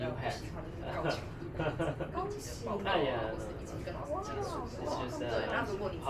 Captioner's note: speaking in foreign language